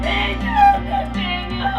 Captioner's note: Beth sobs